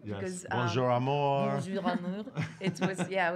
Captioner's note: in foreign language